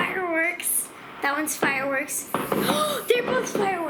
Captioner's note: gasps